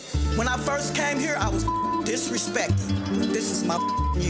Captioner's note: beep; beep